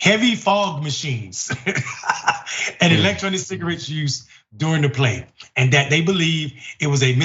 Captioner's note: laugh